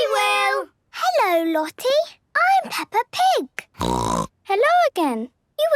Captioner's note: snorting